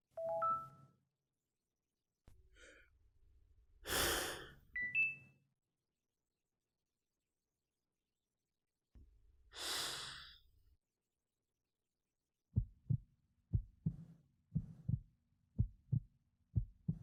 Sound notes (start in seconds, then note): 0.3 beeping sound; 3.9 heavy breathing; 4.8 beeping sound; 9.5 inhaling deeply; 12.9 heart beating